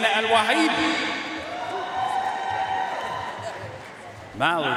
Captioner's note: audience cheering and applauding